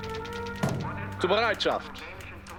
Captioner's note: speaking german